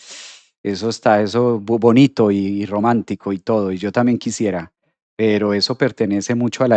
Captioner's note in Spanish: resoplido